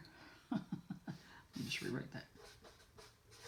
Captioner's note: laughs